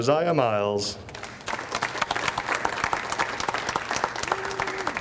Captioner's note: audience applauds